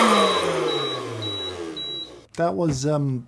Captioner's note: roaster beeping